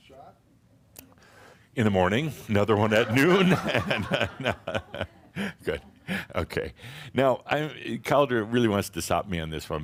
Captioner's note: Adamus chuckles